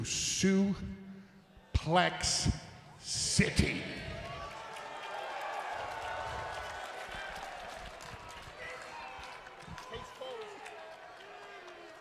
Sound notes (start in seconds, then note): 3.8 crowd cheers